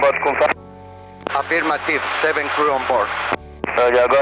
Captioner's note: pilot On Speaker